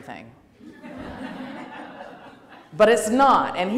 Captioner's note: laughter